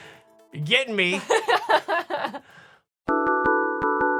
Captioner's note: laughing